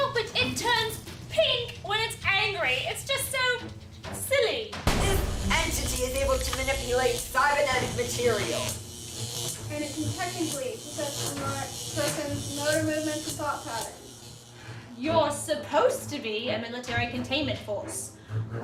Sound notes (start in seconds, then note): 4.8 bang